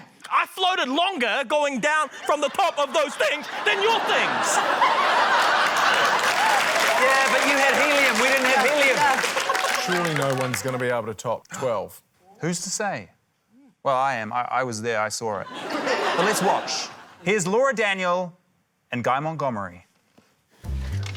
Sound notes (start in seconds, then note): 5.2 laughter, applause; 15.4 laughter